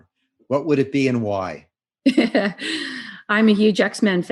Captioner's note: laughs